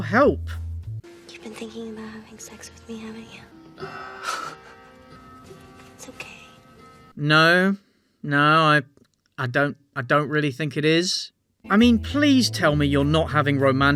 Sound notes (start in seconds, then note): 4.3 nervous laughter